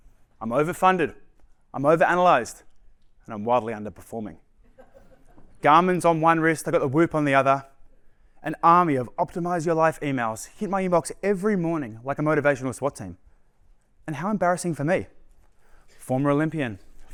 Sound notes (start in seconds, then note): 4.6 laughter